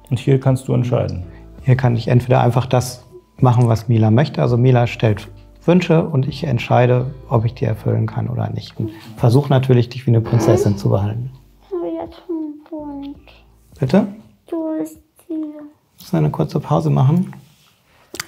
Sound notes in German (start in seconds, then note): 11.7 murmelnd